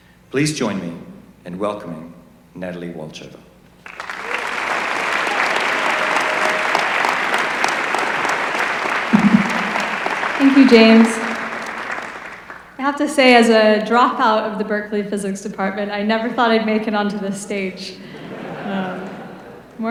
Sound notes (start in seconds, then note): 3.8 applause; 17.6 laughter